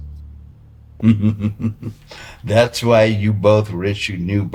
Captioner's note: laughing